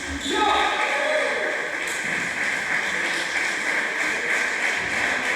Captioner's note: applause